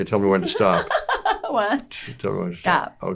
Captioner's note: laughing